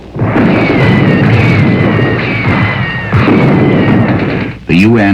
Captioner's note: explosions booming